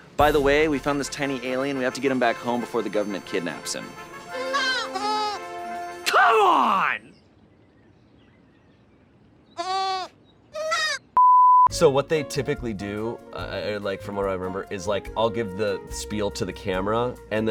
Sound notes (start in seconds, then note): 4.4 alien peeps; 10.5 alien peeps